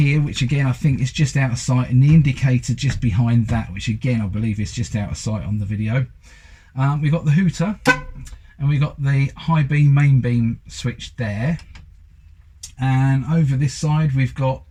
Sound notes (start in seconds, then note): 7.8 toots